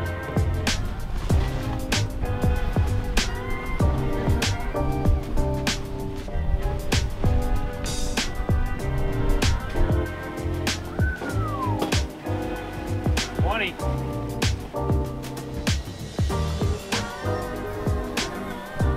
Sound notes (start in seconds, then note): 10.8 whistling; 15.3 upbeat music